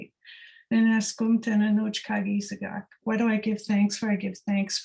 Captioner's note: non-english speech